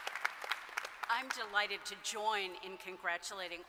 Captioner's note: applause